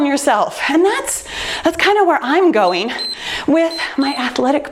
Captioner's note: timer beeps